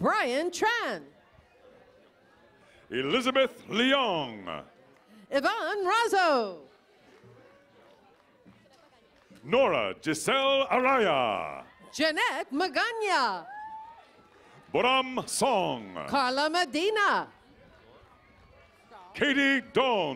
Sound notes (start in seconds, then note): 1.3 cheers and applause; 10.6 cheers and applause